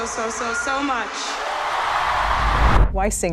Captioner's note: audience cheering